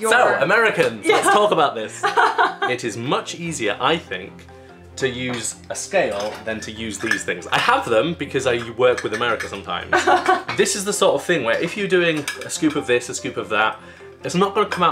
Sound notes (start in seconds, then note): 1.9 laughter; 9.9 laughter